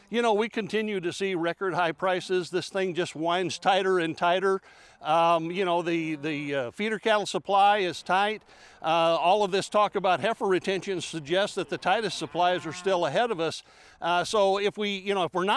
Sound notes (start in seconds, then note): 6.9 cows mooing